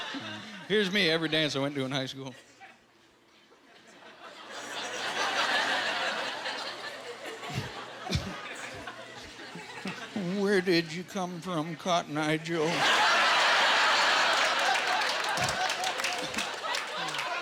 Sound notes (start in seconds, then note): 12.7 laughing